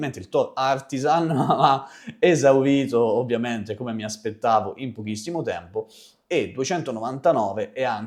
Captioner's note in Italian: risate